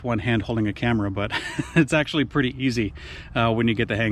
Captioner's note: chuckles